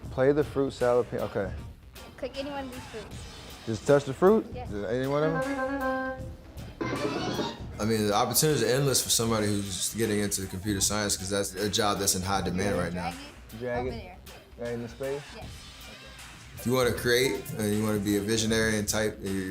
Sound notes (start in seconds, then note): 5.3 lemon beeps; 7.0 apple chimes